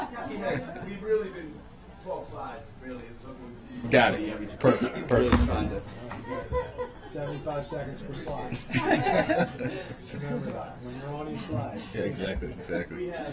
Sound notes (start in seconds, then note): 8.1 laughter